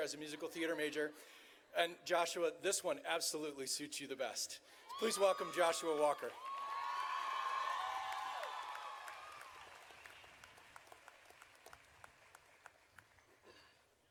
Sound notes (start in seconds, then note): 6.8 audience cheering